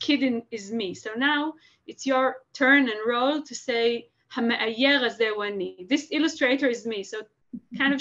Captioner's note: Hebrew; Hebrew